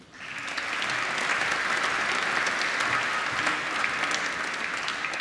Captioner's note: applause